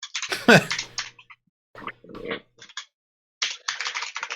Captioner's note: laughing